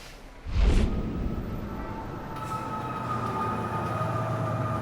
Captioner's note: police sirens wailing